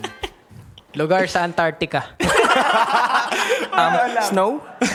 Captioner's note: laughing